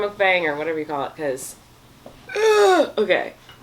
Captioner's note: grunts